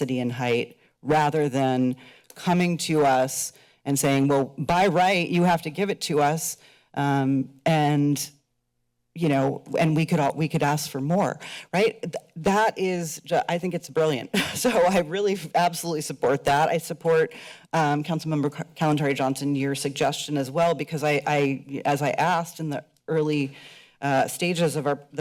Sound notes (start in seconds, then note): 14.6 chuckles